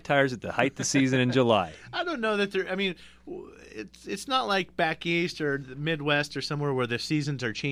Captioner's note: laughs